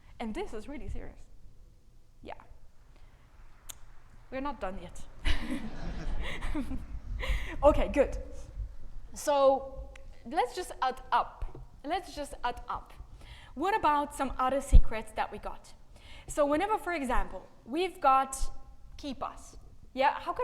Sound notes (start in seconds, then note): 5.2 audience laughing; 5.2 laughing